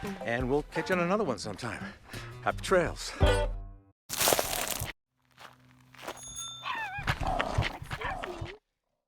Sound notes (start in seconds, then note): 6.1 bike bell ringing; 6.4 dog barking